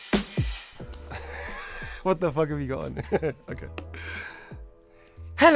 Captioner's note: laughs